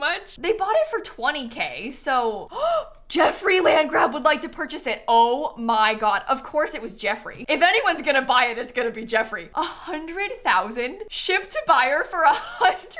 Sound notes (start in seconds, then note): 2.5 gasps